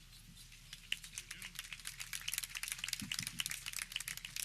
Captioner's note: audience clapping